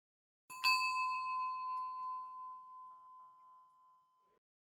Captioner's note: bell rings softly